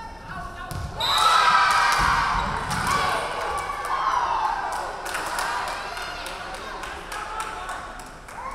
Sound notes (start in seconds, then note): 1.0 referee whistling; 1.0 crowd cheering